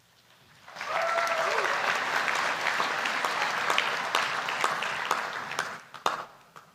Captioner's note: applause